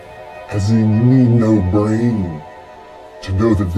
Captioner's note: electronic distorting